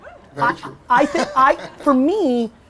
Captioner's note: laughing